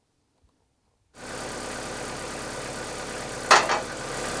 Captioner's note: engine roaring